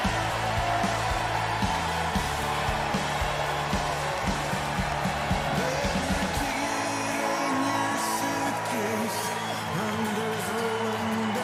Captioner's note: cheers and applause